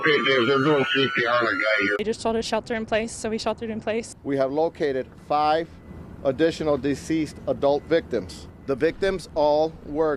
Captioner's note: sirens